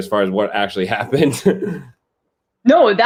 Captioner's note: laughter